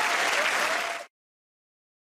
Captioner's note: cheers and applause